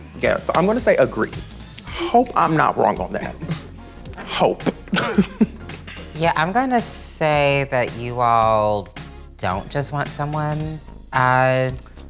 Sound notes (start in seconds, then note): 4.2 laughs